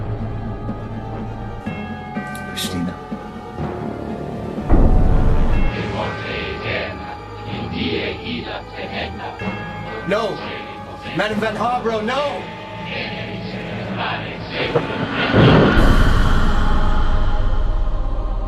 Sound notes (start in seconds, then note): 4.3 mysterious voice speaking foreign language; 13.4 mysterious voice speaking foreign language